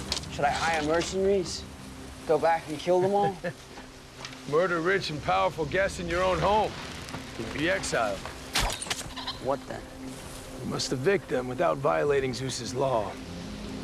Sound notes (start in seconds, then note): 2.8 chuckles; 8.5 arrow flies